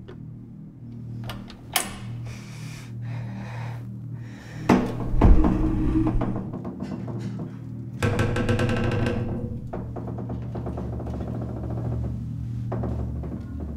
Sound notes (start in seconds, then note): 4.5 door creaking